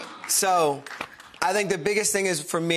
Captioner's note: audience claps